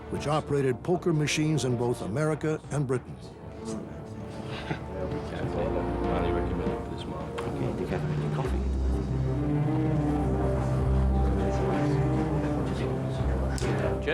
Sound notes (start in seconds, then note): 4.9 men chattering indistinctly; 10.7 foreboding music